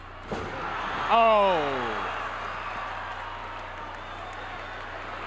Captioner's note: crowd cheers